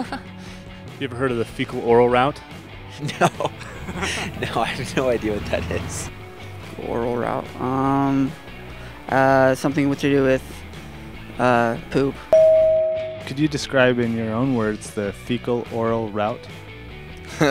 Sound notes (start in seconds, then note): 0.0 laughing; 3.0 laughing; 12.3 bell